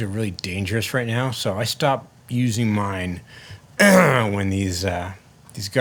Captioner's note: clears throat